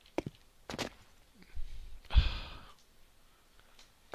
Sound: softly sighs in tired exasperation

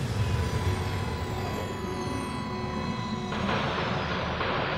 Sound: alarm sounds

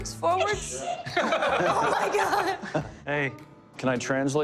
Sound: laughter

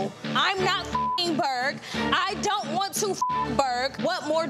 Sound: beep

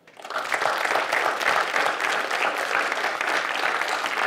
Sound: audience applauding

